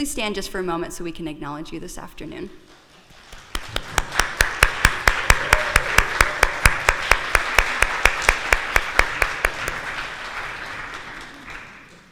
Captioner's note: applause